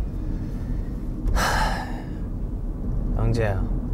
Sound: sigh

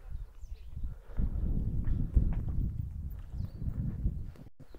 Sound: wind blowing

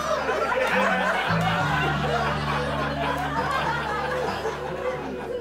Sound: laughter

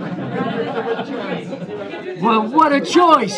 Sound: laughter

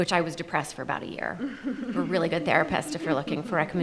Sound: panelists laugh

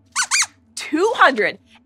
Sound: squeaks squeaks

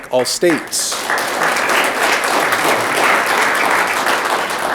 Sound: audience clapping

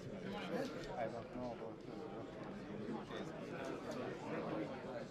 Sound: mutters

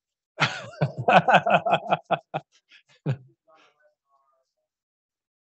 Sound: laughing

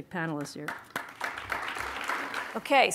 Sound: audience clapping

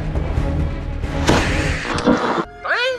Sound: creepy music; explosion

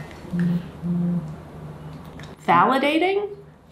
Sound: phone buzzes

